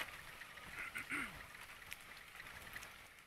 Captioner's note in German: Räuspern